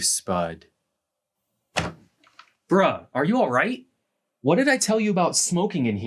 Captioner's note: door opens